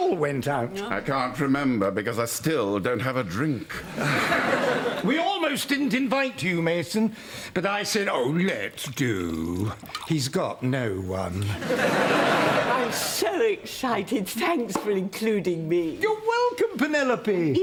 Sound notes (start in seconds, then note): 5.7 sighs